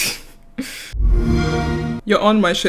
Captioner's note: laughs; Xbox woosh